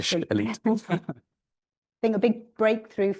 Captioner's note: chuckling